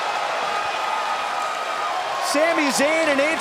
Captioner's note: cheers & applause